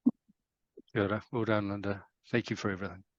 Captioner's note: speaking in foreign language